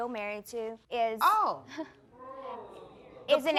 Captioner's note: giggles nervously